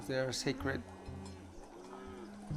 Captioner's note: cows mooing